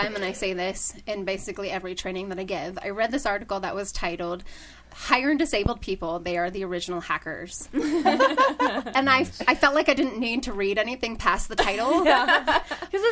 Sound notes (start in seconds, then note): 7.7 all laughing